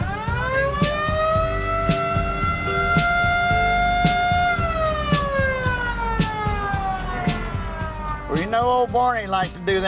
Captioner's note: old police siren wailing